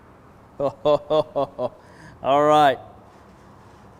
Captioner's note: laughs